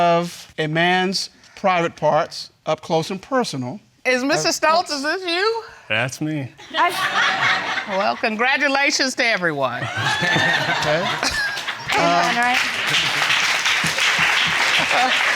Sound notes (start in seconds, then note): 6.7 audience laughing; 9.8 all laughing; 12.0 chuckles; 13.0 audience applauding